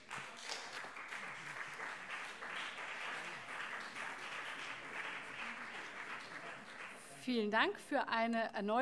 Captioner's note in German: Beifall SPD und vereinzelt CDU